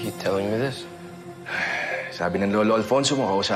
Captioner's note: sighs